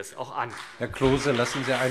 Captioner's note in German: Beifall CDU und BÜNDNIS 90/DIE GRÜNEN